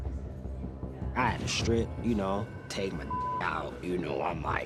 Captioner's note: beep